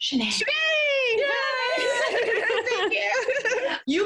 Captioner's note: laughs